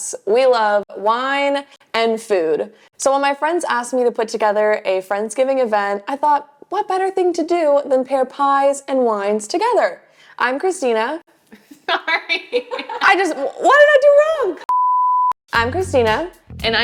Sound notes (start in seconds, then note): 11.5 camera person chuckles; 11.5 chuckles